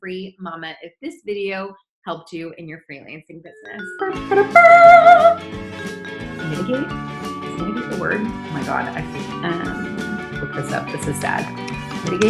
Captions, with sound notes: if this video helped you in your freelancing business. (upbeat music) (imitating fanfare) Mitigate, is mitigate a word? Oh, my God, I have look this up, this is sad.